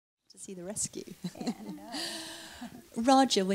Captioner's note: laughs